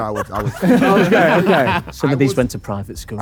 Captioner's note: group laughing